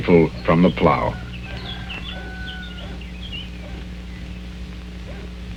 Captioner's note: rooster crowing